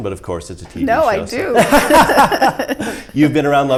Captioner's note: laughing